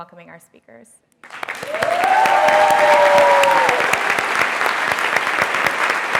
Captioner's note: audience clapping and cheering